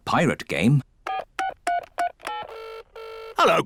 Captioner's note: dialing phone; line ringing